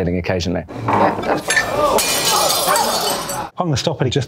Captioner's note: glass breaking; patrons exclaiming